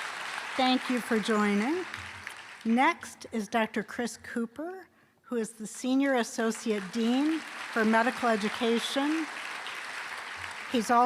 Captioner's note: applause